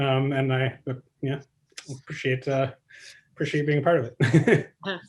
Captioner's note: laughs